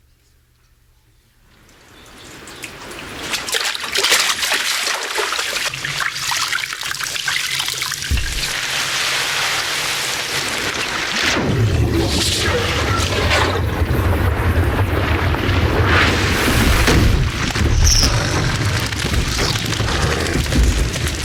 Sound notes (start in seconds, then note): 3.4 water splashing; 8.0 stew sizzling; 17.2 crashing; 17.5 tiger growling